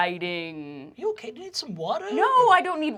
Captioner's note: elderly, high-pitched voice